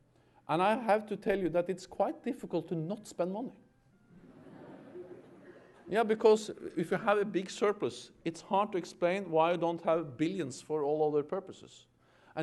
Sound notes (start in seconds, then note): 4.1 laughter